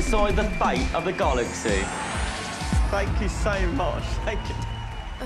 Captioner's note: audience cheering, applauding